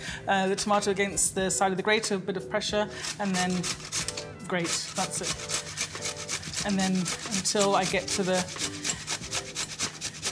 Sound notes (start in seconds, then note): 4.6 grater scraping; 5.3 upbeat music